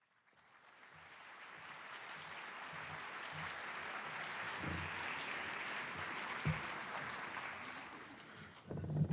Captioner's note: applause